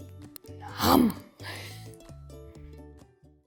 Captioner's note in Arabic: تقضم وتضحك